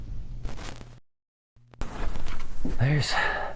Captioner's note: screen scrambles